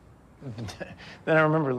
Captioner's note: chuckles